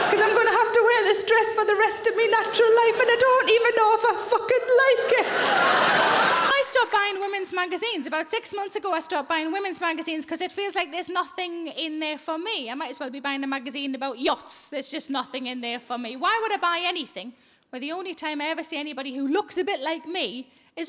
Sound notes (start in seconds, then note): 4.8 audience laughing